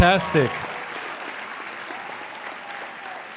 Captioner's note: applauding